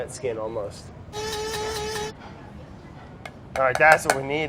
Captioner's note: grinder whirs